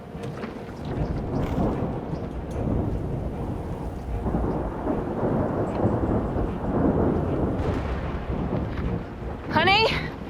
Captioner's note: thunder